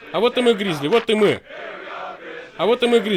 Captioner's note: clap clap